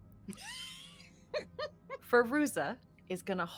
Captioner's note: laughs